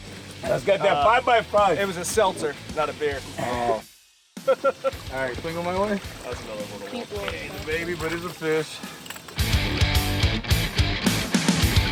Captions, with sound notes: - It's got that 5 by 5 - It was a seltzer, not a beer. - Oh (laughing) - All right, swing him my way. - It's a baby, but it's a fish. (Rock Music)